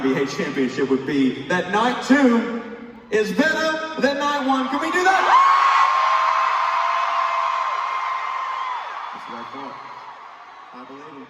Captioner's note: crowd cheering